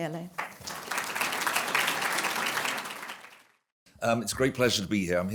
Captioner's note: applause